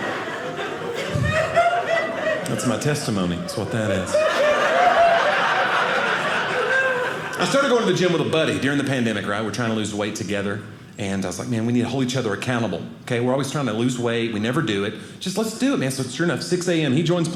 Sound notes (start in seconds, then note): 4.5 audience laughing